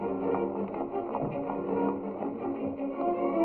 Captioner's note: horses clopping; tense music continues